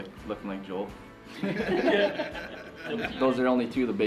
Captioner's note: everyone laughing